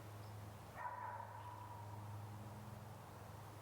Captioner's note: A dog barks in the background